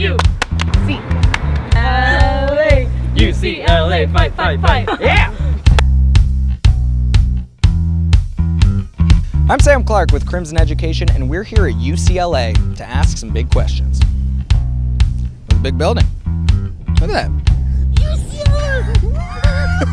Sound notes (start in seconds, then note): 0.0 clapping; 5.7 clap